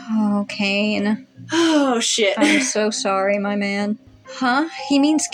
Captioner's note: sigh